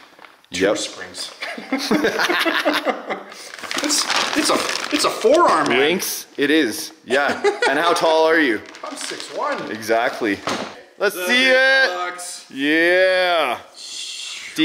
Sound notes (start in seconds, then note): 1.4 laughs